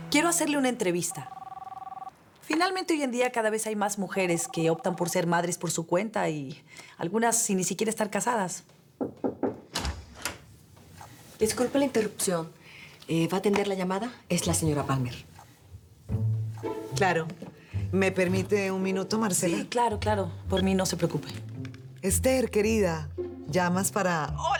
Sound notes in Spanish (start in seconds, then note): 9.0 Toques en la puerta; 11.3 Ruido al abrir